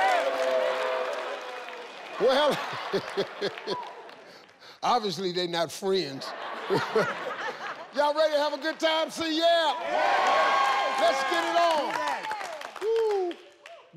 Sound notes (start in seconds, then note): 6.2 audience laughing